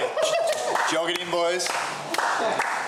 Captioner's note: all laughing